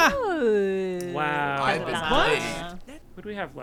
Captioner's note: group chattering